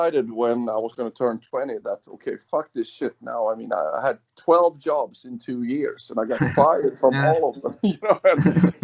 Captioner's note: laughs